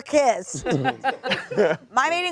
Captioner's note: all laugh